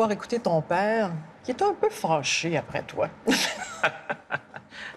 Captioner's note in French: rires